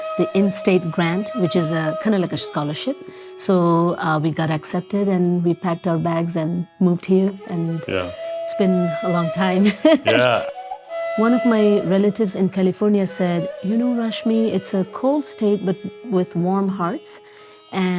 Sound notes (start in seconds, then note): 9.7 laughs